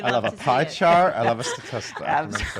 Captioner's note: laughter